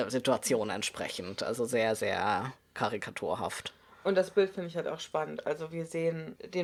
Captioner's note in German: none